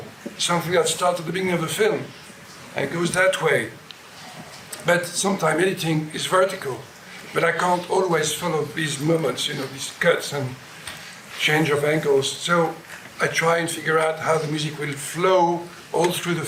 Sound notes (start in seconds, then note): none